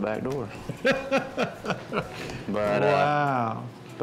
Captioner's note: laughs